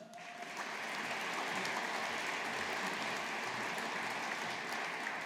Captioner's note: audience applauding